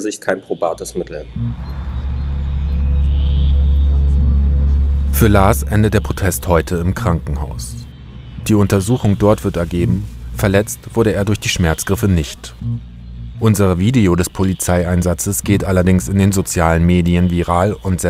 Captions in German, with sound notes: kein probates Mittel. *dumpfe, atmosphärische Klänge* Für Lars endet der Protest heute im Krankenhaus. Die Untersuchung wird ergeben: Verletzt wurde er nicht durch die Schmerzgriffe. Unser Video des Polizeieinsatzes geht in den Sozialen Medien viral